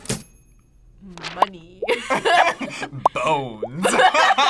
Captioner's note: both laugh